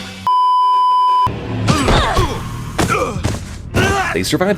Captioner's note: oofs from everyone